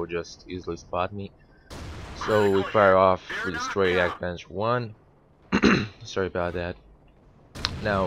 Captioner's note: throat clearing sound